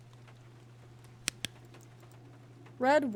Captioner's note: flashlight Clicks Off